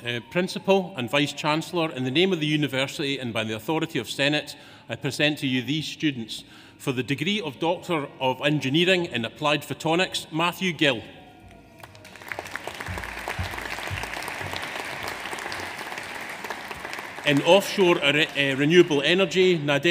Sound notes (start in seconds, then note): 11.7 audience applauds